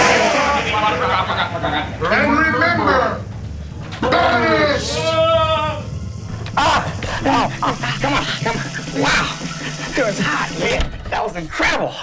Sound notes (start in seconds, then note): 1.4 voiceover; 2.3 yelling; 2.6 thunder crashes; 5.6 voiceover; 7.2 yelling